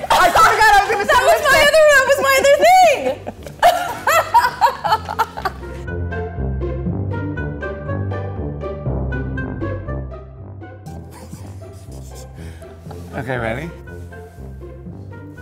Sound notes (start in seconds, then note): 3.2 laughs; 5.8 lighthearted music; 10.9 laughs